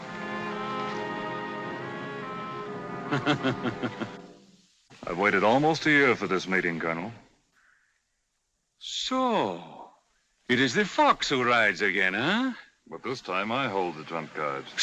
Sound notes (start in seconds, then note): 0.0 suspenseful music; 3.1 colonel chuckles